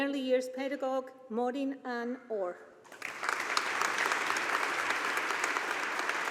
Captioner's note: audience applauding